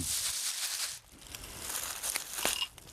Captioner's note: rustling